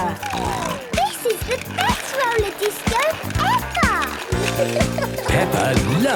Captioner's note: snorting